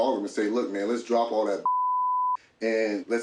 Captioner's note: beep